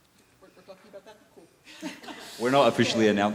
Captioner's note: laughs